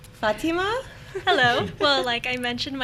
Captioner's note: laughing